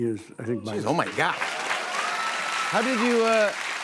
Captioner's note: cheers and applause